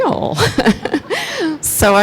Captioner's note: laughs